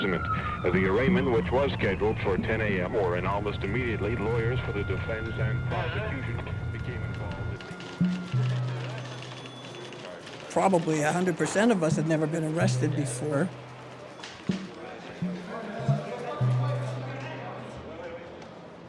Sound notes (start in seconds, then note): 6.2 typewriter keys clacking; 13.6 indistinct conversations